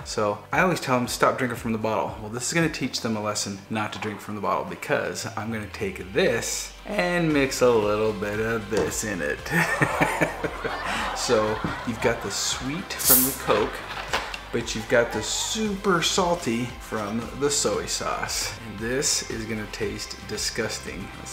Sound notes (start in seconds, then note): 9.5 live audience gasp